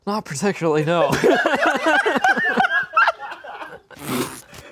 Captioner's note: everyone laughs